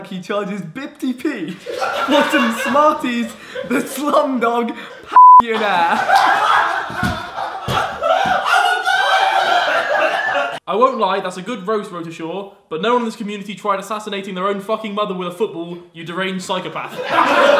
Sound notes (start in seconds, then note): 5.1 beep; 7.7 audience laughs; 16.9 audience laughs